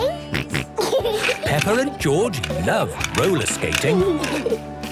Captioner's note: snorting and giggling; laughter